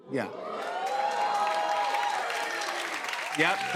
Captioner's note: cheers and applause